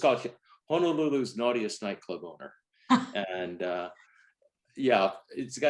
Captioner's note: laughs